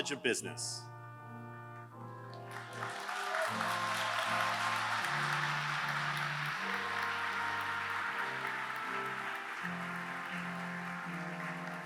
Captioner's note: applause